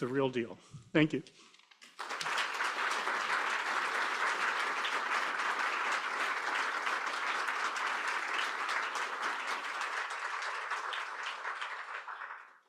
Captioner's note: applause